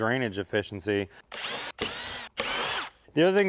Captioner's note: drill whirring